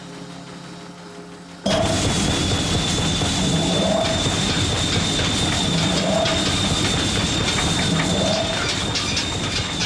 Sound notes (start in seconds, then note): 1.3 whistling and hissing